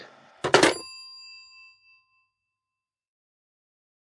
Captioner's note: phone being hung up